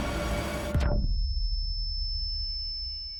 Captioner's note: high-pitched ringing